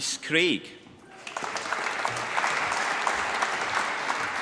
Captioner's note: applause